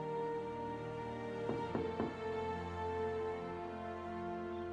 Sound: door knocking

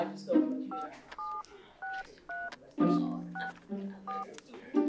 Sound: phone dialing

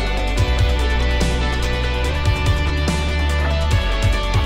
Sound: people chattering

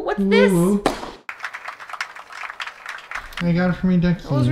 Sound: clapping sound

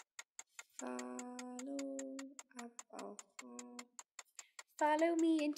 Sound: quiet murmuring

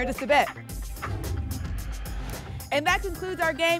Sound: whoosh

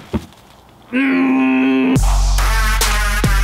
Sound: hammer bangs; groans; dramatic music

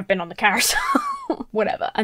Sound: laughs

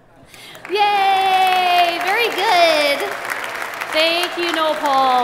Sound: applause

